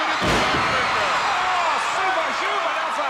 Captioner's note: audience cheering